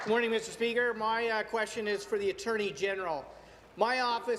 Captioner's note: applause